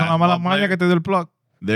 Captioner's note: speaking In Foreign Language